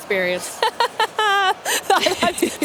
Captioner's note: laughing